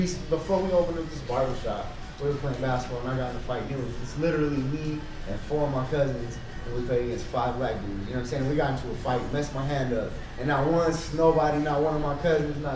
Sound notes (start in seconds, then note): none